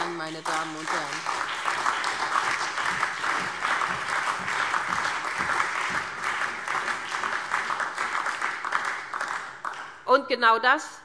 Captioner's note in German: Beifall SPD, CDU, BÜNDNIS 90/DIE GRÜNEN, Freie Demokraten und DIE LINKE